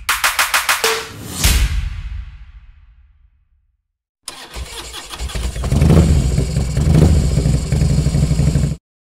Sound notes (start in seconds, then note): 4.3 motorcycle sound effect